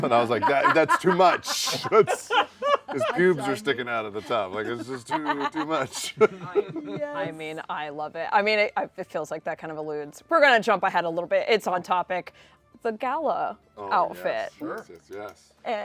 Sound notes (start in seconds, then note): 2.0 laughter